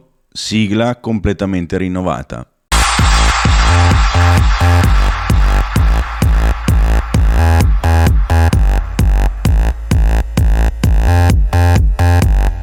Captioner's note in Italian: Applauso